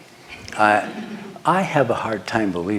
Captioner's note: laughter